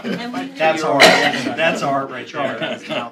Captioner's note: laughter